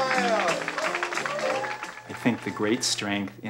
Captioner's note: audience clapping